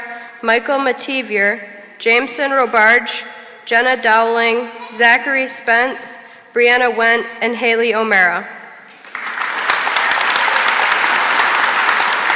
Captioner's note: applause